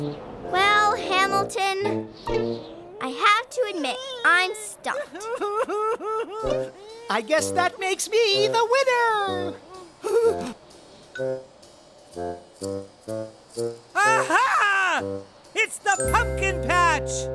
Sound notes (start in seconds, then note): 5.6 whining; 9.5 shudder of fear